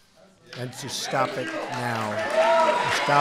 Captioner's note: applause